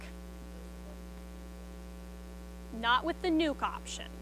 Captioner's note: student speaks faintly